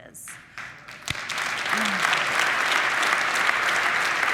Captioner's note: audience applauding